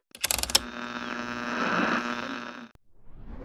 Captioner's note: radio tuning noises; radio static; machine whirrs to life